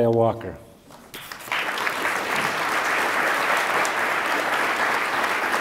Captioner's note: attendees applaud